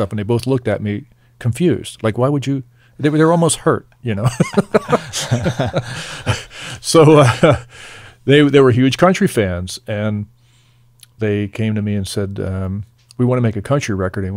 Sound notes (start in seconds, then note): 4.3 laughing